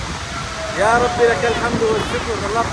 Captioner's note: Arabic